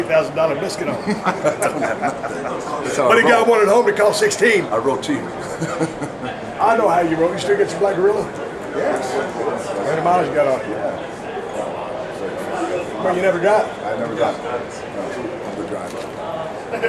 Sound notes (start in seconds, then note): 0.9 chuckles; 5.3 chuckles